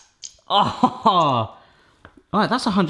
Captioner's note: laughing